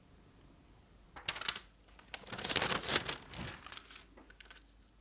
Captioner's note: paper rustling